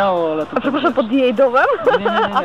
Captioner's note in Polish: śmiech